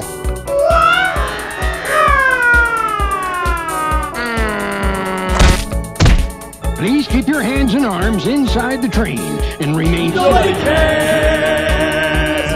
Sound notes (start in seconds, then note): 5.3 slap; 6.0 smack